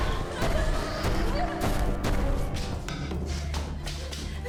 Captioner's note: dramatic music; both panting